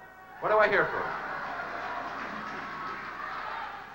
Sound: light applause

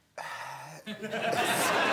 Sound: sighs; audience laughing

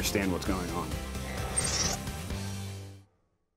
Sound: mechanical sfx

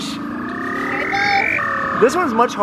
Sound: machine buzzing

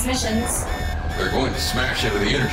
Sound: alarm blaring

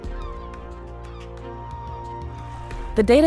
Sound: seagulls squawking

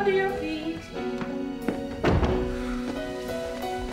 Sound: door Closes

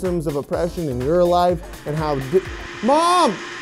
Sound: vacuum starts again

